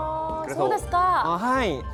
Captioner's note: in Japanese